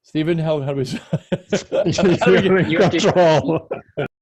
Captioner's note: laughs